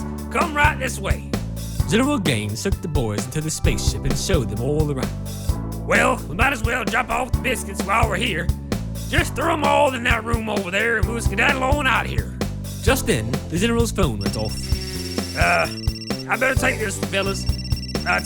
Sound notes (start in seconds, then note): 14.2 phone ringing and buzzing